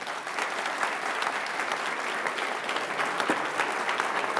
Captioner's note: audience applauding